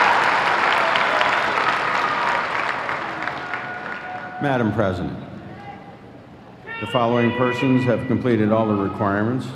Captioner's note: applause